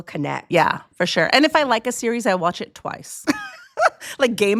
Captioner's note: chuckles